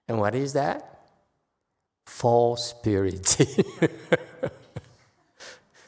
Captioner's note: laughs